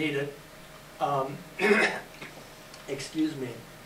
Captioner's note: clears throat